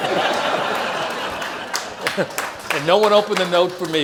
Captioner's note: audience laughs